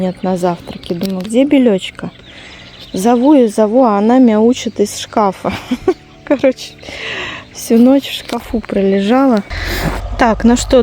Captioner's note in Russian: смех